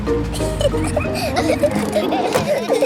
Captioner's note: children giggling